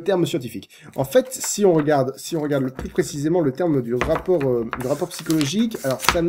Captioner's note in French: bruit de recherche dans un livre